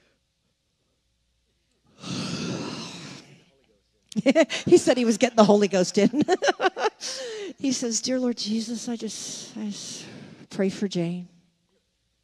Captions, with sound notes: (breathes heavily) He said he was getting the holy ghost in. He says, "Dear Lord, Jesus, I just pray for Jane.